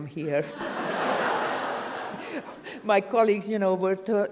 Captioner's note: audience applauds